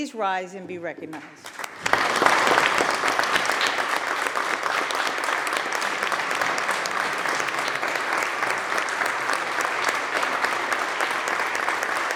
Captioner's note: applause